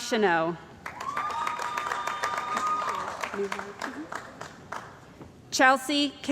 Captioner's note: cheering & Applause